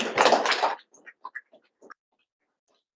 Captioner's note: audience applauding